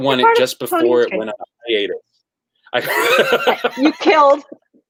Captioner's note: laughs